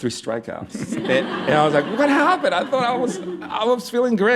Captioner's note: laughter